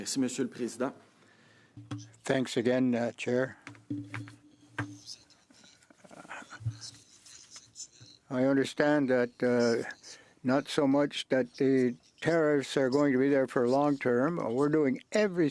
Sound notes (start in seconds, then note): 8.2 speaking French